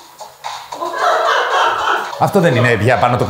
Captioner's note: loud group laughter